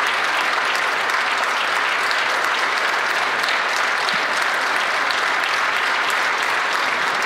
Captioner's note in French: applaudissements